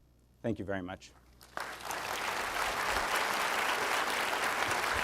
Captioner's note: applause